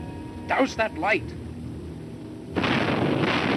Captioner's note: gunshots